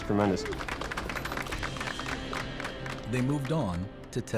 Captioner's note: applause